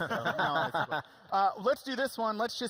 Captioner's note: laughing